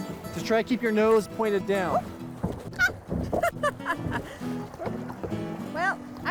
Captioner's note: laughs